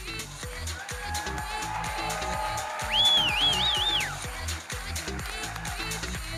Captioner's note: audience cheering and applauding